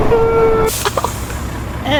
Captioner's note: laughs to myself